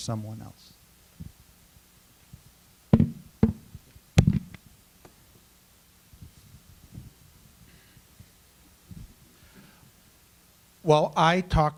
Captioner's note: silence